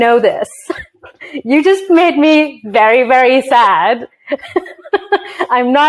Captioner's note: chuckles; laughs